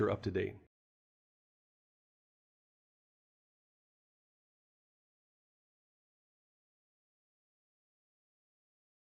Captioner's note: no audio